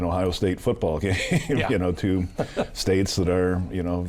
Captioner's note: laughs